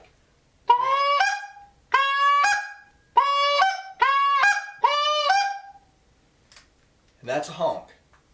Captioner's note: goose call